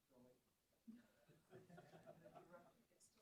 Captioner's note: laughter